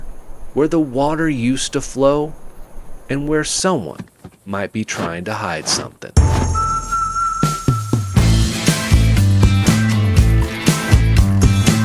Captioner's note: whistles